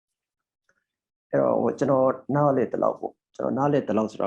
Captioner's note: speaking burmese